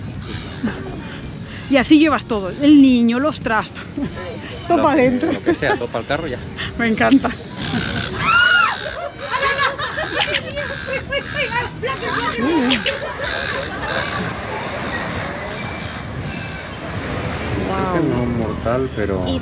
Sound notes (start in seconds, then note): 11.5 laughs